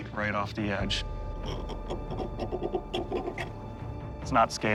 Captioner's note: grating